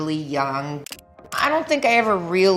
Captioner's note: camera snapping consecutively